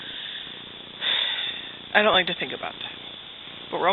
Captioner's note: sighs